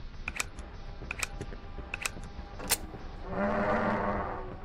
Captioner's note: gun clicking; growling